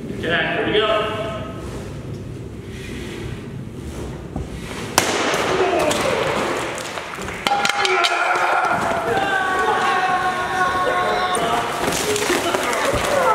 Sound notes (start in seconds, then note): 4.9 crash; 7.4 yelling